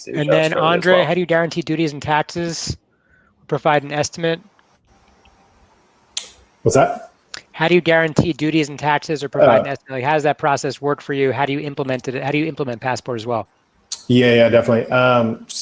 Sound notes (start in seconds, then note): 9.3 murmurs